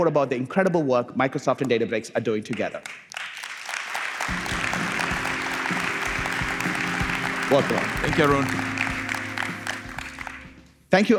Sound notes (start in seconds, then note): 2.5 applause